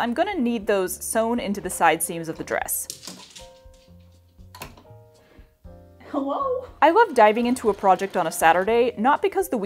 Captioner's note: skitter paws